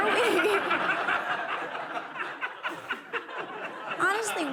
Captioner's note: laughter